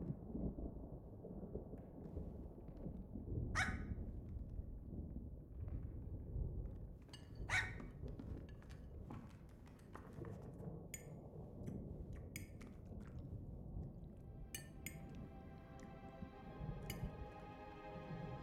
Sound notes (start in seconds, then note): 2.4 thunder softly rumbles; 3.5 dog yaps